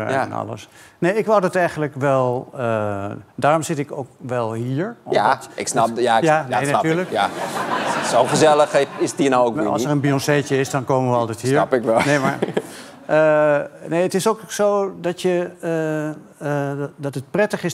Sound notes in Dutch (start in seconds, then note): 6.8 gelach